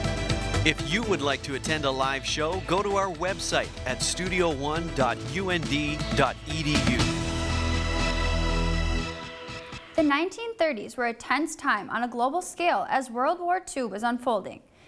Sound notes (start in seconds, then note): 0.6 voiceover